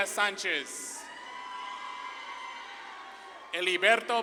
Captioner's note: audience claps and cheers